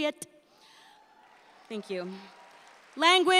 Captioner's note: audience applauds